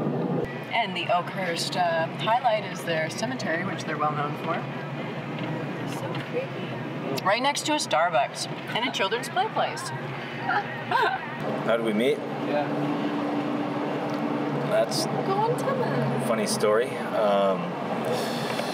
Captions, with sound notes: And the Elkhurst, first highlight is their cemetery, which they're well known for. (chattering) Right next to a Starbucks, and a children's play place (laughs)! - How did we meet? - Yeah. - That's-- - Go on, tell him! - a funny story, um, well,